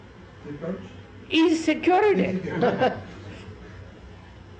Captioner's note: laughs